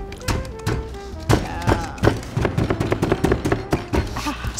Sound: rolling pins pounding

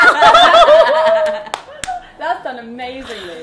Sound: all laughing

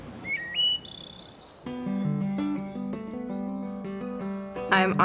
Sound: birds tweeting

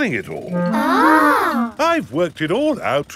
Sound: children gasp in awe

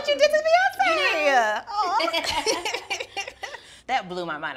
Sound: both laughing

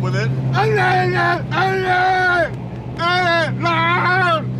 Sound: freaks out and starts screaming

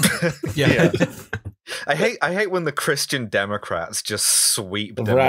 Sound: laughter

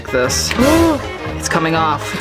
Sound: gasps

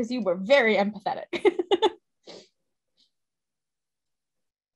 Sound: laughs

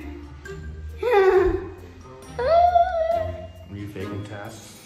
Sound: chuckles nervously

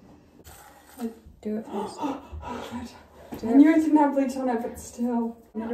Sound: gasp

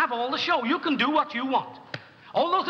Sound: hands clap

